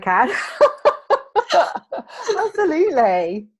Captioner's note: laughing